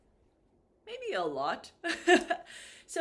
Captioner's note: laughs